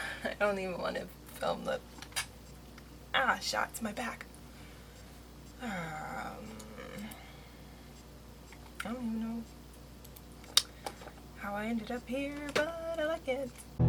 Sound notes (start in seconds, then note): 6.4 sighs; 10.6 sings